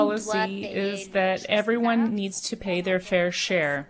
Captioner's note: speaking French